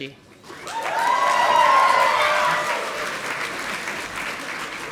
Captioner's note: audience applauding